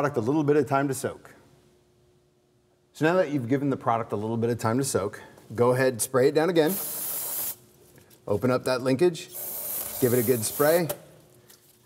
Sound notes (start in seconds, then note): 6.6 spray sound